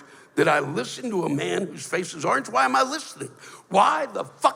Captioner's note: none